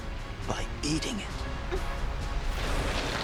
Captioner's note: gasps